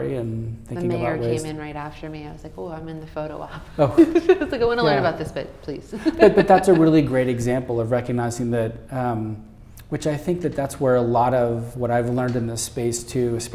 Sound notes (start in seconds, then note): 3.5 laughing